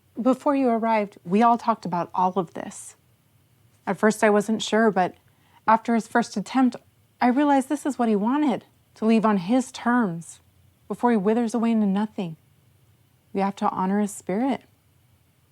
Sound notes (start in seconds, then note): none